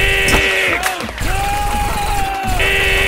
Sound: McCree screaming

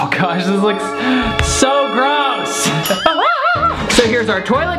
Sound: weird laugh

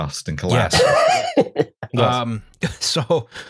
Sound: laughs

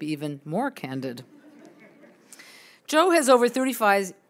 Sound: audience chuckles

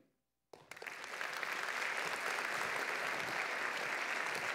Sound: applause

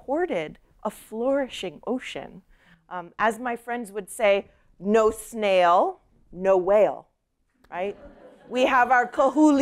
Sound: laughter

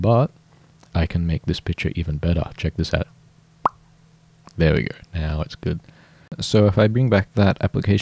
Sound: pop

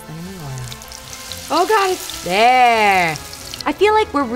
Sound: crackling

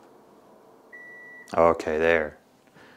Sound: air conditioner beeping

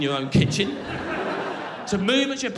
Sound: crowd laughing

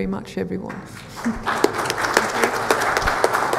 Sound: audience applauds

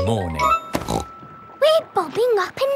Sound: snorts

